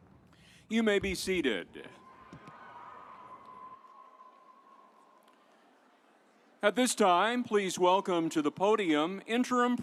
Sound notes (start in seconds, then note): 2.6 audience applauds